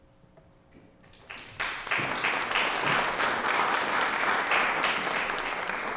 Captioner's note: applause